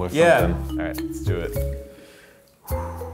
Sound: sighs

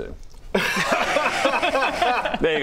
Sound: smooth laughter

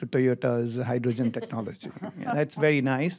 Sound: audience chuckles

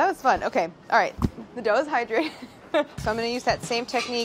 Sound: laughs

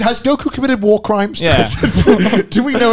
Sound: all laughing

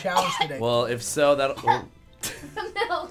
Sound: coughing

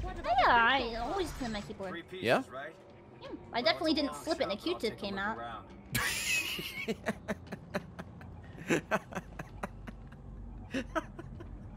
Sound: laughs

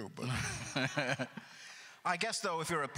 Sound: laughs

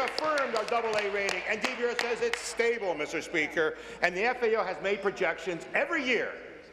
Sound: applause

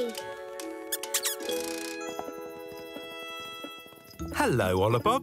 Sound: snoof squeaks

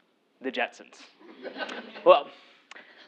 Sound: laugh

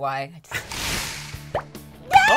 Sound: whoosh

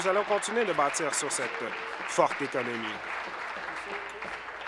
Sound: applause

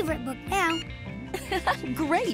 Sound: giggling

